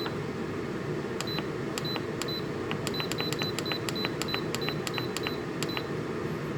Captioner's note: beepin' and button pushing noises